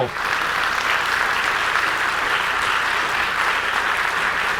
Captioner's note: audience applauding